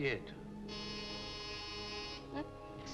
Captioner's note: phone rings